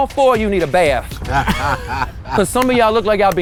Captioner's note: guys laugh; hands clap